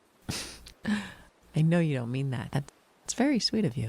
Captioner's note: chuckles